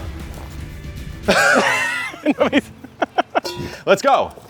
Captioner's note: laughing